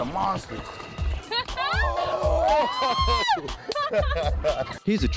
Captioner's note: cheering, hooting and hollering